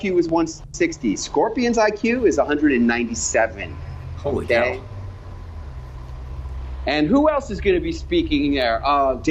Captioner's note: none